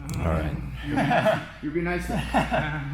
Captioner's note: men laughing